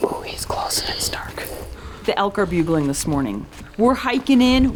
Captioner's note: elk bugle